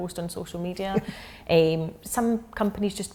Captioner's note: laughing